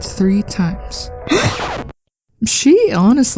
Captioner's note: record scratch; gasps